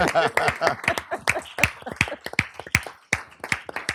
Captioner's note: laughter